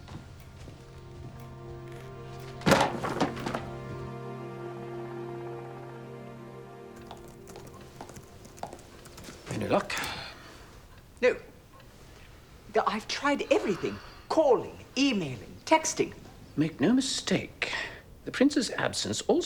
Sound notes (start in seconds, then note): 0.3 light dramatic music; 2.4 book thuds; 8.1 keyboard clicking